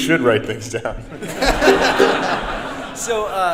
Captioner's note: group laughs; audience laughs